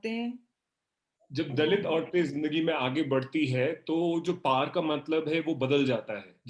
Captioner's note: speaks foreign language